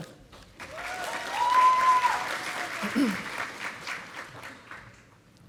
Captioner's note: audience applauding